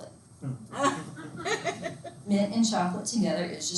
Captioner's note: students laughing